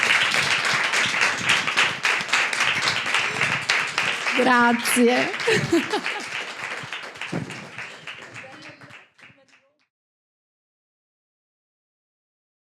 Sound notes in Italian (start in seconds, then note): 6.3 Applausi